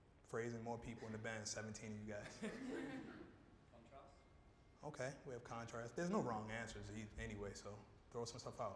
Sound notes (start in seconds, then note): 2.2 laughter